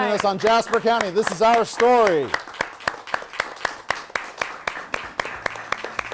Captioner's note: applause